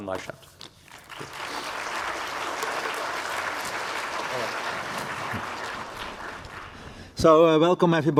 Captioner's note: applause